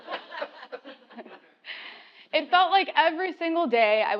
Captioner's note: laugh